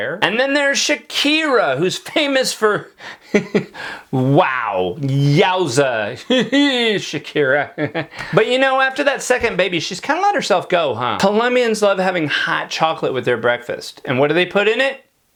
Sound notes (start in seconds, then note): 6.5 man babbles